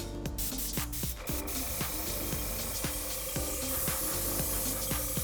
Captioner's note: air hissing, machine whirs